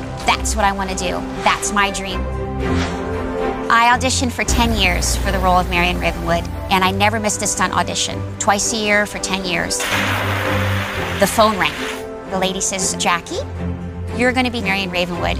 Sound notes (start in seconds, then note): 9.8 blowing